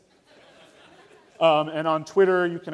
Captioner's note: laughter